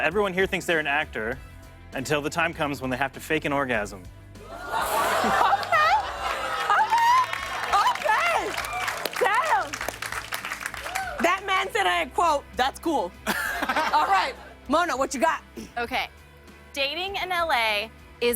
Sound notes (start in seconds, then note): 4.5 audience ohs; 5.3 applause